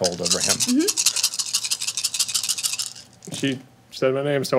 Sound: dice rattling

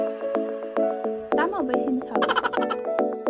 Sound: laughs

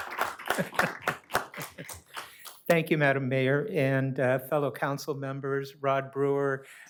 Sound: applause

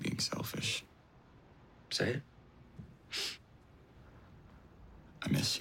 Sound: sniffles

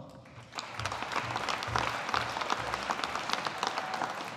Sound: audience applauding

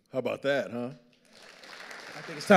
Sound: audience applauding

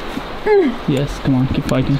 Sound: grunts

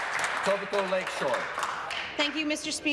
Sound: applause

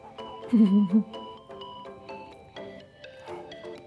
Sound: laughs

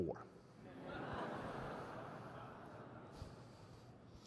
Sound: crowd laughing

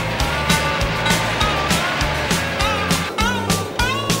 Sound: whistle blowing

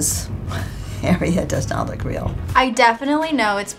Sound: laughs

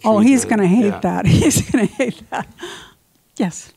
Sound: laughs

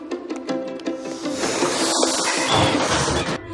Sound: unicorns hiss

